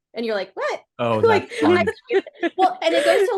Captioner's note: laughing